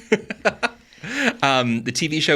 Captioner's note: laughing